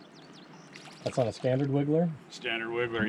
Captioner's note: water rushing; birds chirping; fish splashing